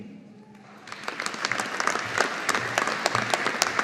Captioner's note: audience applauding